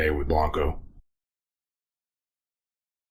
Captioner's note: silence